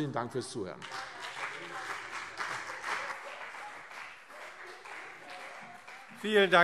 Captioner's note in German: Beifall CDU und BÜNDNIS 90/DIE GRÜNEN